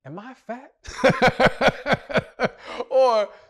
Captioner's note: laughs